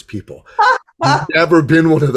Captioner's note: laughing